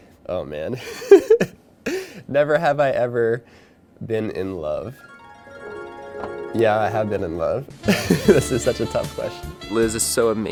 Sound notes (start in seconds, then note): 0.8 laughing; 4.9 romantic harp music; 7.8 laughing